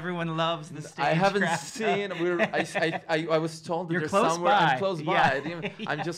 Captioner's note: stutters